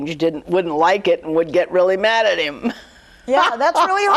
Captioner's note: laughs